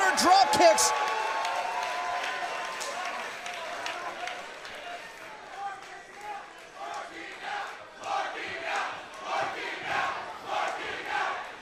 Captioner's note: crowd cheering